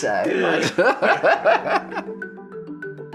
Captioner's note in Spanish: risas